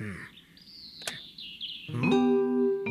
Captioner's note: click!